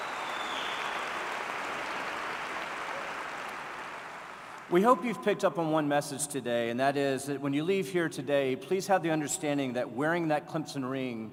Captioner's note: applause